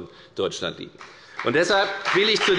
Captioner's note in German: Beifall bei der FDP